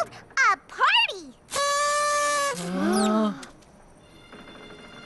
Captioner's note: toot!; all gasp